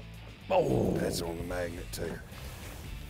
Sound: groaning

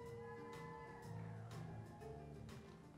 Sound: scattered cheering

